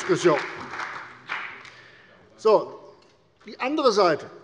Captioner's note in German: Beifall bei der CDU und dem BÜNDNIS 90/DIE GRÜNEN